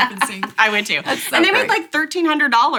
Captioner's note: laughs